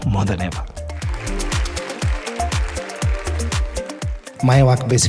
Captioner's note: audience clapping